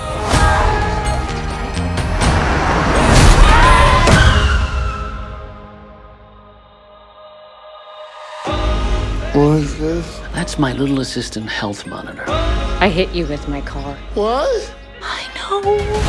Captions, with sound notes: [SCREAMING ON STREET] [SCREAMING IN CAR] What is this? That's my little assistant health monitor. I hit you with my car... WHAT?! I know...